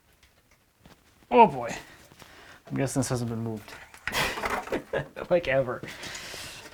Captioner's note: laughs